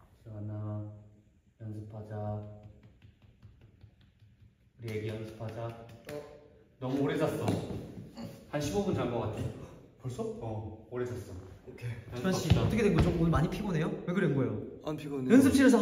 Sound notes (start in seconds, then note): 2.4 tap tap